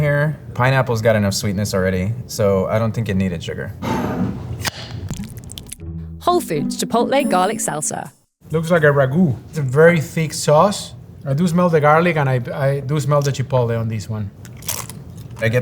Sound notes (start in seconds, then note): 3.9 jar sliding; 4.5 lid opening; 5.0 salsa pouring; 14.4 mouth crunching